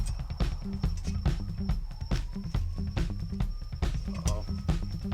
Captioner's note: sirens in the distance